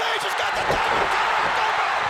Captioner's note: crowd cheering